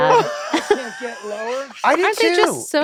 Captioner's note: Glenn laughing